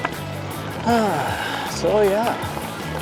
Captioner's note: sighs